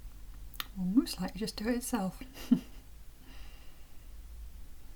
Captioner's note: chuckle